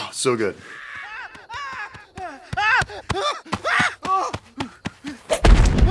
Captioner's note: screaming